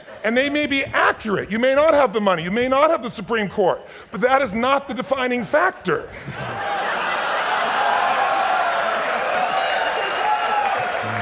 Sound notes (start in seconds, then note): 6.0 audience laughs